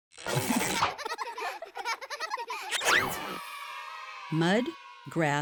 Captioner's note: children laughing